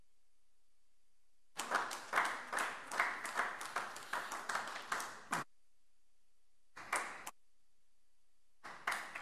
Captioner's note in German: Beifall AfD